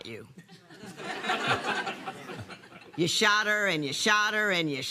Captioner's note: laughter